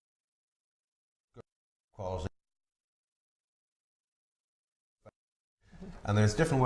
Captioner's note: silence